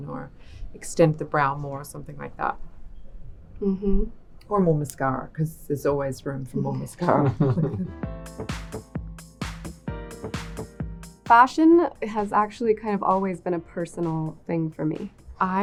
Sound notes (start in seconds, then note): 7.0 people laughing; 7.0 upbeat electronic music